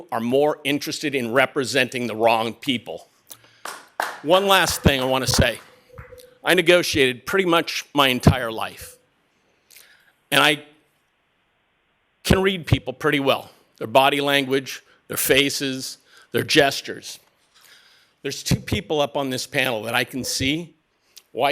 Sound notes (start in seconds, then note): 6.4 applause